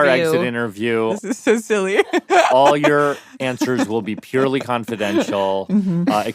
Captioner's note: laughs